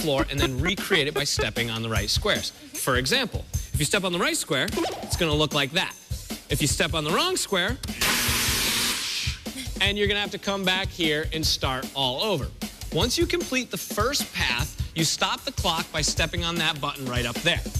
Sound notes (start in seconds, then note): 7.8 alarm sounding